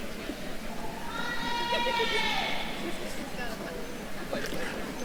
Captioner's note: attendees cheering